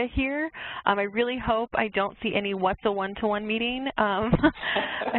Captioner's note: laughs